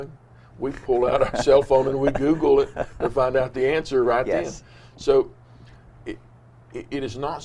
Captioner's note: both laughs